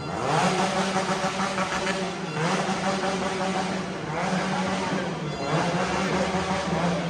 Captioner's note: motorcycle